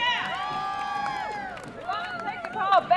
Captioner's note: crowd